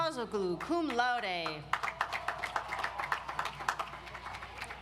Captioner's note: audience applauds